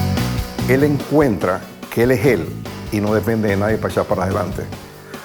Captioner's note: speaking Spanish